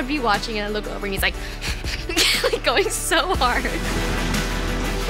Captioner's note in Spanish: Gruñendo, luego riendo